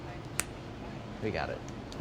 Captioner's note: snaps fingers